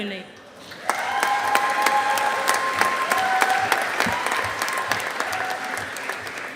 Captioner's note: audience applauding